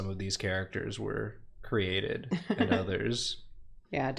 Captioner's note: laughs